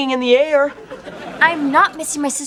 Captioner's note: laughing